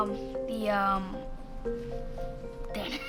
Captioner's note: laughs nervously